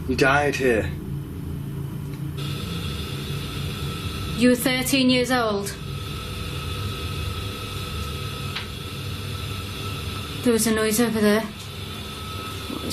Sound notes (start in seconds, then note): 2.5 low hissing; 9.0 tapping sound